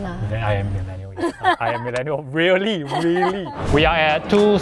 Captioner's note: laughs